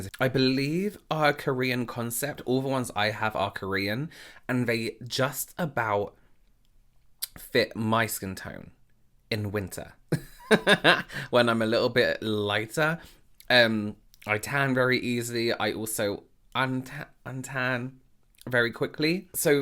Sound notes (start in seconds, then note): 10.2 laughing